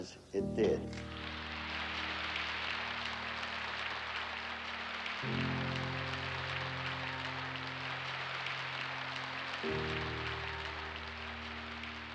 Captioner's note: applause